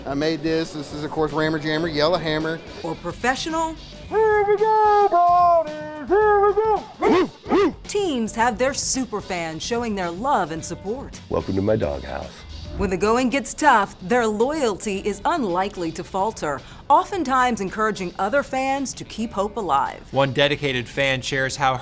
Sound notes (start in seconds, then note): 6.8 fans barking